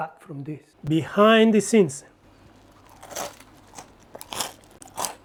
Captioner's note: pork crackle crunches